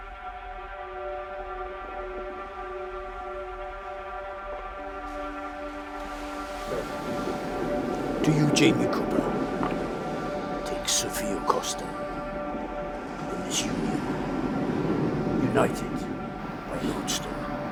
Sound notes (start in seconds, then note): 5.1 waves crashing